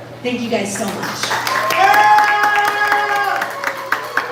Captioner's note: wild applause